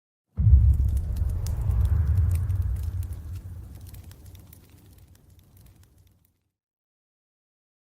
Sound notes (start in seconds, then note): 0.4 low rumbling